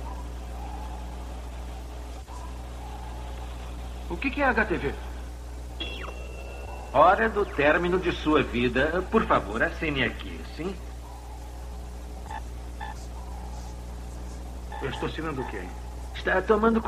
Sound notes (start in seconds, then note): 4.9 computer Buzzes; 10.7 beeping